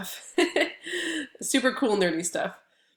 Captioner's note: laughs